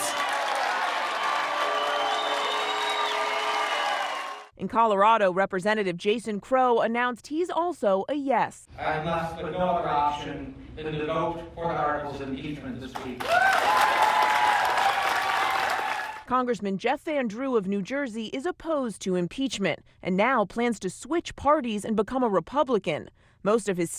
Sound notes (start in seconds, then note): 4.7 boos and cheers; 16.8 cheers and applause